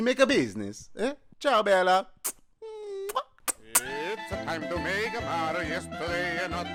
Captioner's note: kissing sounds